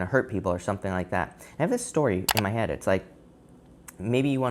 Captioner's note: click sound